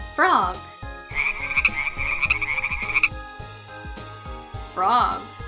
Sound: frogs chirping

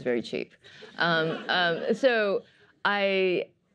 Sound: laughter

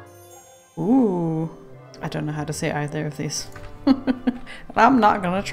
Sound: laughs

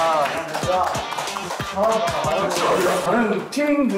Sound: echoing like karaoke

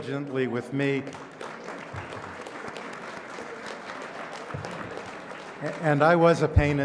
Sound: applause

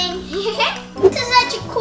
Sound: laughs

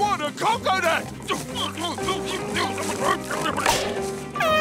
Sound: grunting; air horn blaring

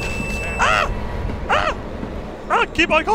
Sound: screams; screams again

